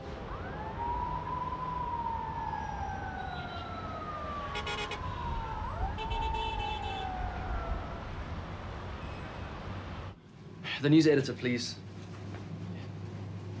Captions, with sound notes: (siren wailing) (horns honking) - The news editor, please.